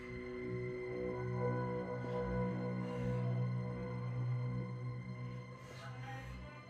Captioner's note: soft tense music; monster rasping softly